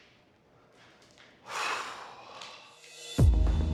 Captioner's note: exhales